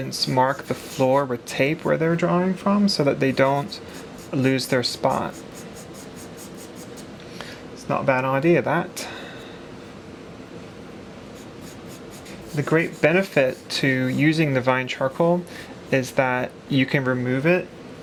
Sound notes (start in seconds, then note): 8.2 english Accent